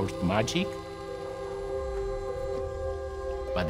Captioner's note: whirring